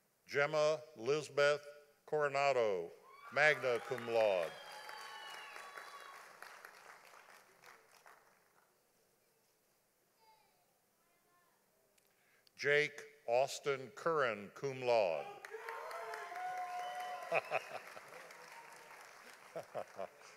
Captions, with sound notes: Jemma Lizabeth Coronado, magna cum laude. (audience applauding) Jake Austin Curren, cum laude. (audience applauding) (laughing)